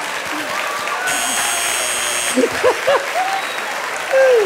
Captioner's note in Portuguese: campainha